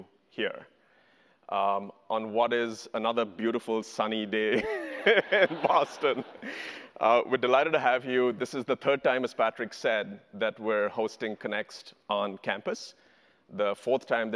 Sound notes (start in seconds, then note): 4.8 audience laughter; 5.7 laughs